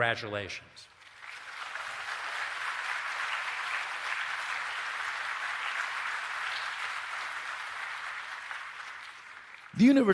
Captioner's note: applause